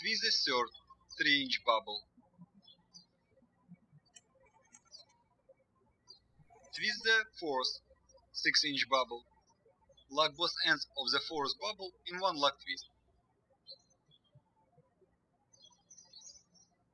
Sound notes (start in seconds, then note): 2.6 birds chirping; 13.5 birds chirping